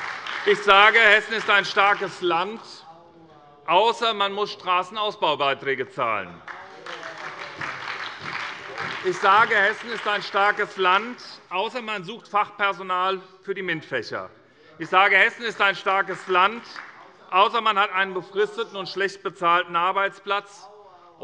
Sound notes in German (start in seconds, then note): 0.0 Beifall bei der SPD - Zurufe von der CDU; 6.4 Beifall bei der SPD